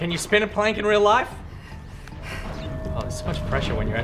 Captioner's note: sigh